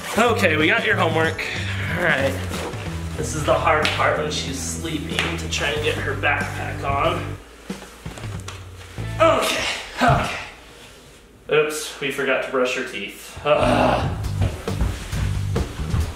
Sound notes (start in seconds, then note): 13.4 grunts